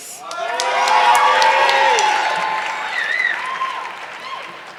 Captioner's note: audience clapping